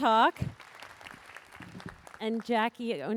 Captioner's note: applause